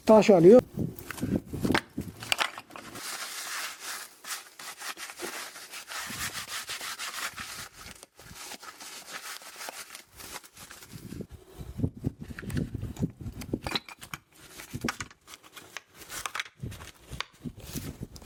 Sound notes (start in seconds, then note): 1.0 the clattering sounds of the stones when they are placed on the ground